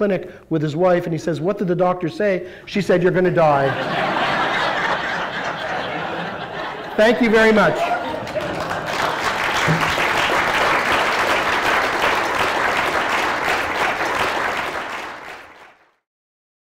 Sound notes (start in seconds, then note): 6.1 laughter; 7.1 applause